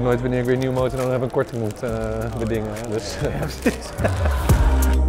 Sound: laughs

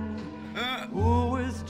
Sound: singing; Arthur laughs; singing

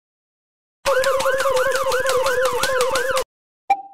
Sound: alert; ping

